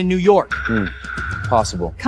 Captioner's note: phone ringing